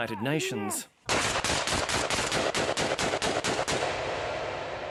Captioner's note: gunfire